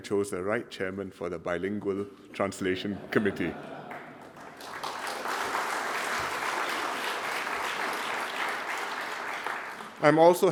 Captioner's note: laughter & applause